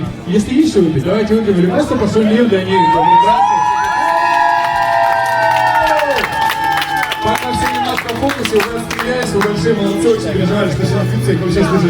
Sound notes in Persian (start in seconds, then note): 6.5 صدای تشویق